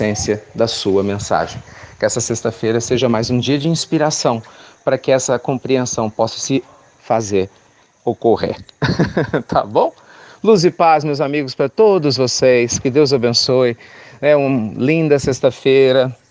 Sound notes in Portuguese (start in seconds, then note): 8.6 Risos